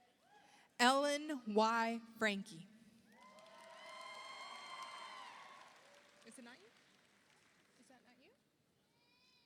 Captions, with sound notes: Ellen Y. Franke, (audience applauds) (audience cheers) Is it nine? Is that nine here?